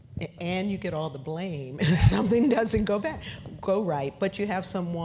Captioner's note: laugh